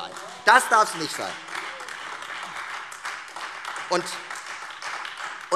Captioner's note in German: Beifall Freie Demokraten und AfD